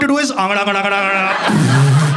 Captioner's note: Gargle